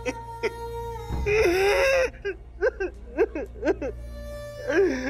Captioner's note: sobbing